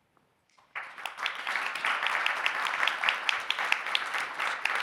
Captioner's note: audience applauding